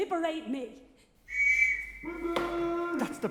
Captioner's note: whistle, man shouts